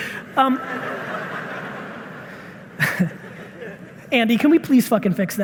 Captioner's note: audience laughing